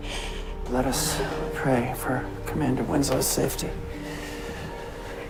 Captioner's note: voiceover